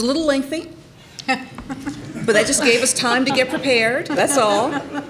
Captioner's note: laughter